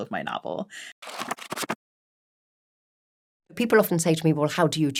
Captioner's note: pages flipping